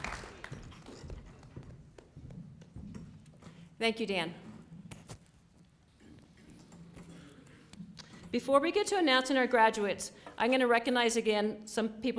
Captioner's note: applause